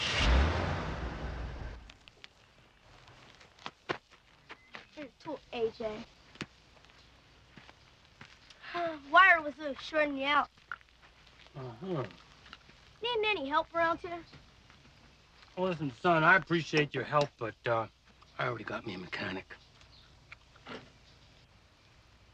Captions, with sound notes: (engine purring) Here's your tool, A.J.. (sighs) Wire was a little shortin' you out. - Uh huh. - Needin' any help around, sir? - Now listen son, I appreciate your help but, uh, I already got me a mechanic.